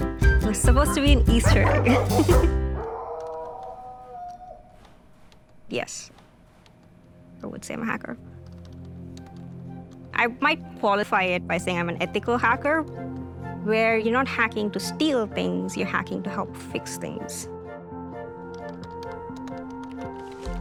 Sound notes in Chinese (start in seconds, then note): 2.8 狗嚎叫聲; 17.9 輕柔的音樂